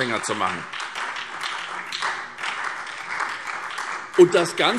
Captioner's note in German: Beifall SPD